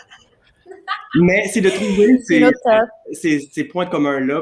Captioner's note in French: rires